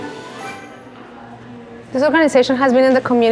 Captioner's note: practice set up noises